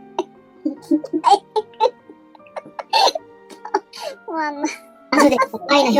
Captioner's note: laughs